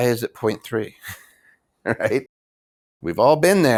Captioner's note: chuckles